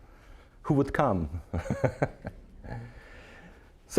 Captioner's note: laughing